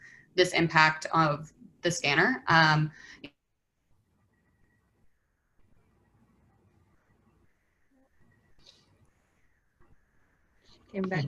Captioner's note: internet cuts out